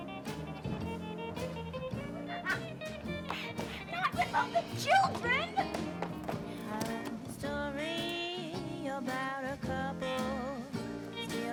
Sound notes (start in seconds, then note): 3.3 laughs